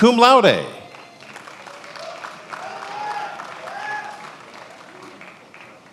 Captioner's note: attendees applauding